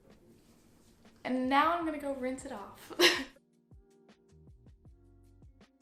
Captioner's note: chuckles